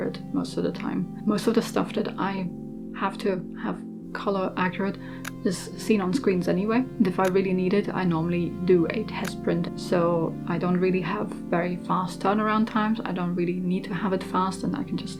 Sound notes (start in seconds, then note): none